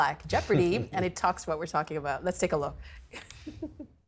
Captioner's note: chuckles